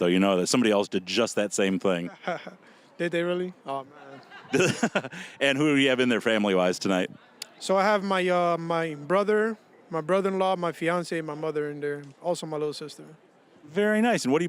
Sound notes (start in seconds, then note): 3.9 laughing; 4.0 chuckling